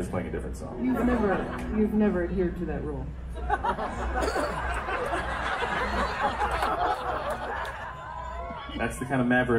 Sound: crowd laughter

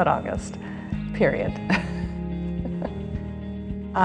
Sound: chuckles

